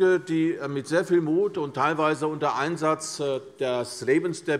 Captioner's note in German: none